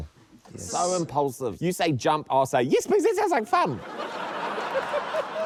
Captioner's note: laughter